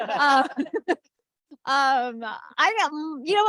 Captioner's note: laughter